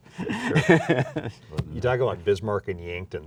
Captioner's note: laughing